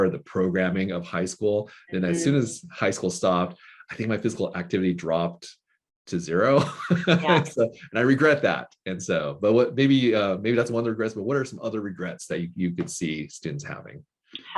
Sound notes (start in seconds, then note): 6.5 laughing